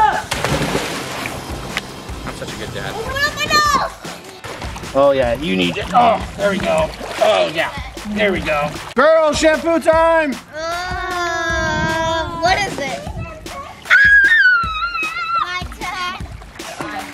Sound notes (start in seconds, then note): 0.2 screaming; 11.3 groaning; 13.8 screaming